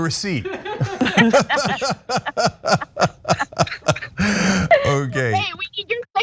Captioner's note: laugh